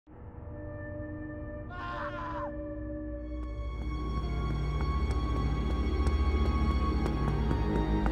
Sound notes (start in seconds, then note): 0.2 ominous music; 1.7 man screams; 3.1 suspenseful music